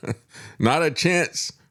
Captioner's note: laughs